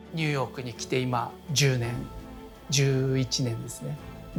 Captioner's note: speaking Japanese